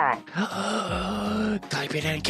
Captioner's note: groans